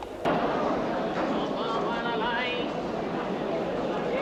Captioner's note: crowd chattering